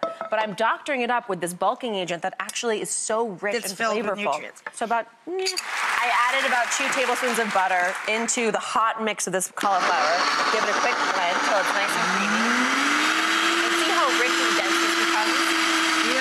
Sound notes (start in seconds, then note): 5.5 clapping; 9.6 blender whirring